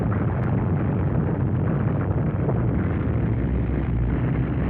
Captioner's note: engine roaring